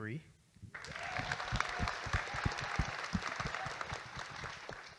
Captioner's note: audience Applauding